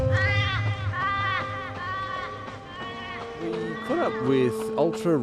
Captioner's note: birds squawking; footsteps pattering